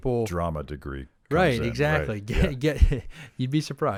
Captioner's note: laughs